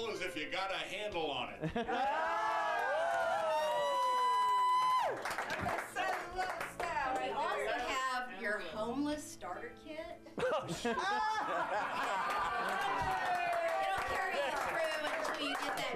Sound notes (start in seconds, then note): 7.9 audience cheers; 15.4 applause